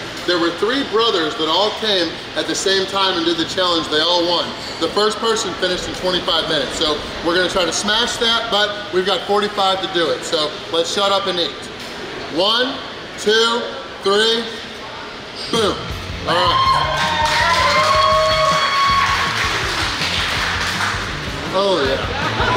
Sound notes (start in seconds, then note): 16.2 crowd cheers; 20.9 exciting rock music